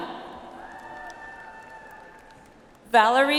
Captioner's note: audience applauds